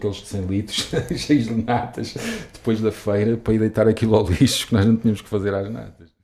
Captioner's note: laughs